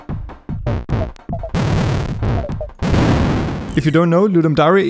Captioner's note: shooting and explosions; beeping